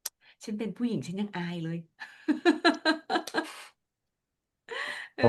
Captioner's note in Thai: เสียงหัวเราะ